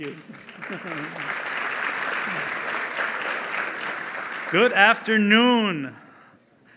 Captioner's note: applause